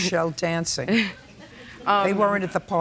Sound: chuckles

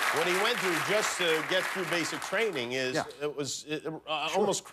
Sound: applause

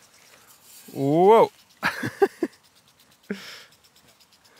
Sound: laughing

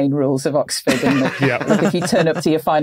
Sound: laugh

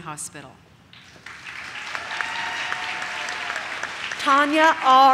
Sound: audience cheers

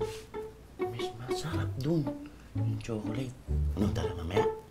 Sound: murmuring

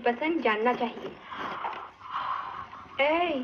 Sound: yawning

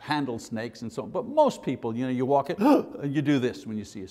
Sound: gasp

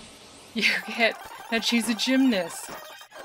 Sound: laughing

